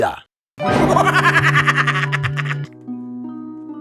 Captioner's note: creepy laugh